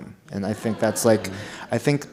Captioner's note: audience laughs